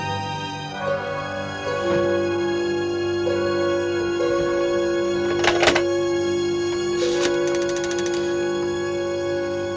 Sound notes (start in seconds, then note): 0.0 eerie music; 5.4 phone dialing